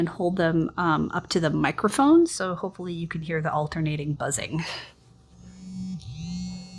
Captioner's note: buzzing